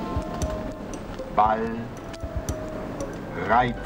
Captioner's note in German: Computerstimme